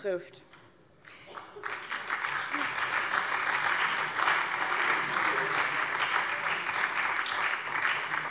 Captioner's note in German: Beifall SPD